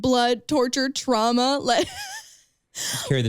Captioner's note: chuckles